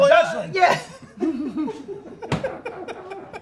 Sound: laughs

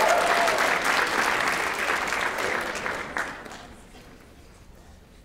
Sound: applause

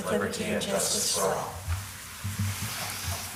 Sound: gavel bangs

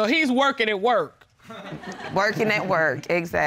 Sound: laughter

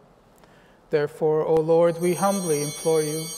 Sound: chimes ringing

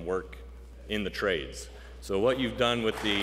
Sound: applause

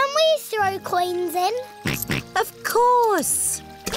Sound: snorts

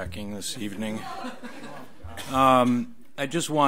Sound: audience laughs; overlapping chattering

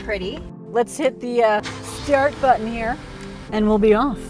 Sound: engine starting

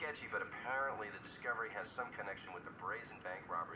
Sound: none

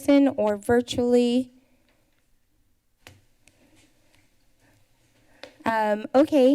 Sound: pause

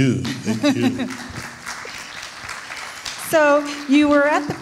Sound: audience clapping

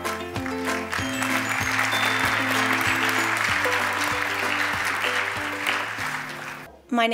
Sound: applause

